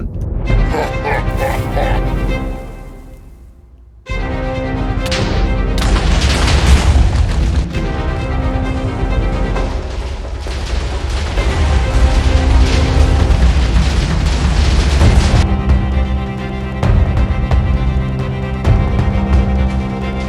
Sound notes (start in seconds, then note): 0.4 dramatic music; 0.6 maniacal laughing; 5.8 explosions booming; 7.5 dramatic music continues; 16.6 dramatic music continues